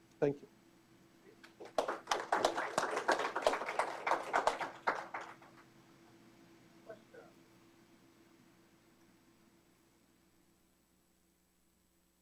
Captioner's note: applause